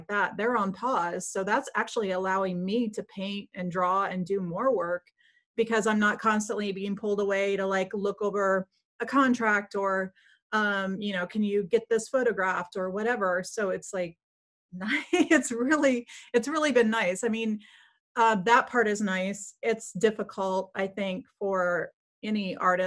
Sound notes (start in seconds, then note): 14.8 laughs